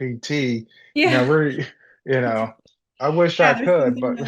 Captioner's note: laughs